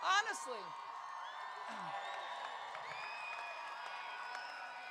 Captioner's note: crowd cheering